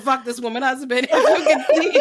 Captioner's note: laughs